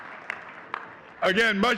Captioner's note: audience clapping